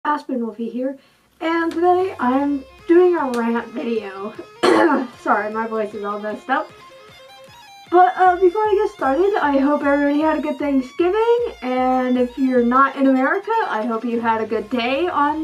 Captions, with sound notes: Aspen Wolfie here and today I'm doing a rant video *cough* Sorry, my voice is all messed up but uh before I get started I hope everybody had a good Thanksgiving and if you're not in America I hope you had a good day on